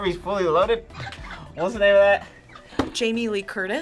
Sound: laughs

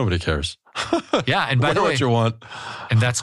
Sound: laugh

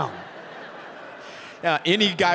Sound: audience laughing

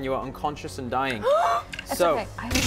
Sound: gasp; zap

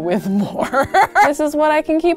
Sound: laughs

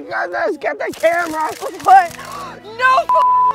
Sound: camera shutters clicking

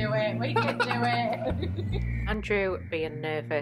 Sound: laughing

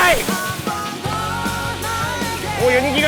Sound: swish swish

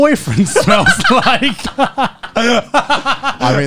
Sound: laughing

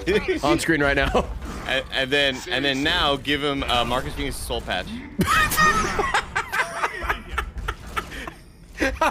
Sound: laughs

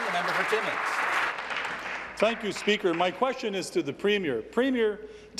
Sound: applause

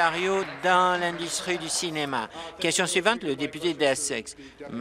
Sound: applause

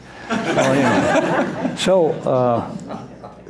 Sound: laughter

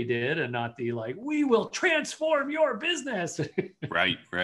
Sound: laughs

